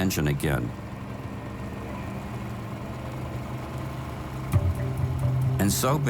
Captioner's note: boat engine whirring